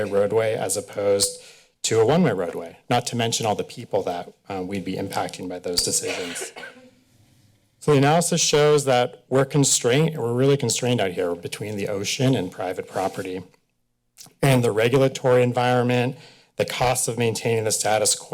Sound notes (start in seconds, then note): 5.8 coughing